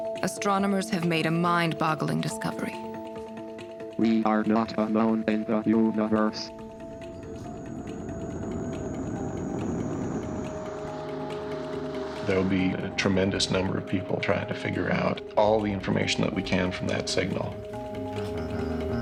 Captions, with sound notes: Astronomers have made a mind boggling discovery. - [Computer Voice] We are not alone in the universe. (suspenseful music) - There'll be a tremendous number of people trying to figure out all the information that we can from that signal.